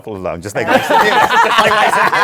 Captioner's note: laughter